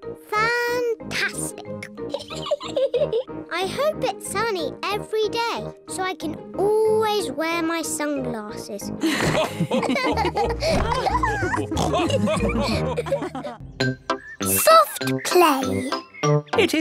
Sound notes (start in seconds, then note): 2.1 laughs; 9.0 all laughing